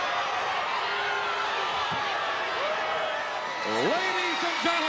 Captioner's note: audience booing